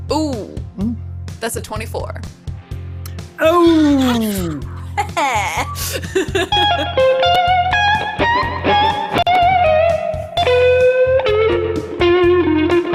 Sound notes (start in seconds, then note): 3.5 laughs; 6.3 lute shreds upbeat tune